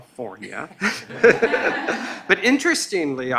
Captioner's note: laughing